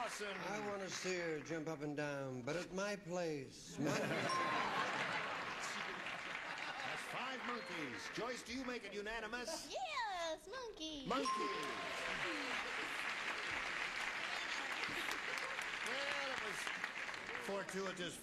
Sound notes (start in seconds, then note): 3.7 laughter